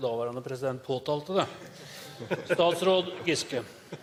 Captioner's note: Munterhet i salen